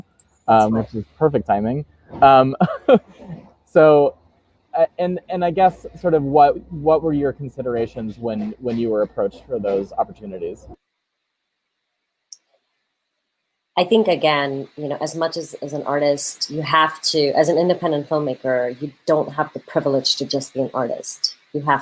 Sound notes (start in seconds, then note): 2.2 laughs